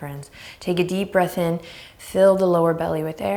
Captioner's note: deep breath